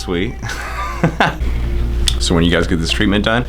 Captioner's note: laughs